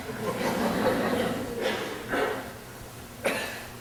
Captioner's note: audience laughing